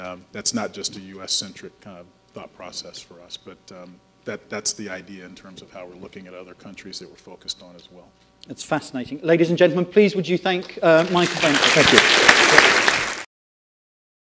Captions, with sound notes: It’s not just a U.S centric thought process for us, but that’s the idea in terms of how we’re looking at other countries that we’re focused on as well. That’s fascinating. Ladies and Gentlemen, please would you thank Michael Bender. (Applause) Thank you.